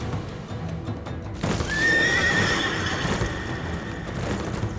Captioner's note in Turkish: At kişniyor